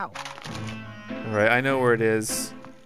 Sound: voiceover

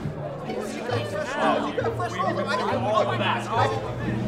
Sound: arguing

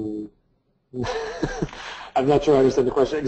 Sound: laughs

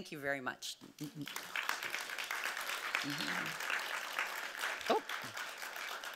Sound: audience clapping

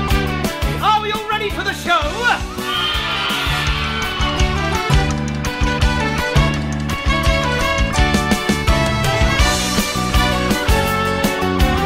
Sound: kids cheer

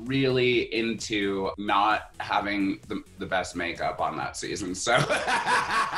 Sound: laughs

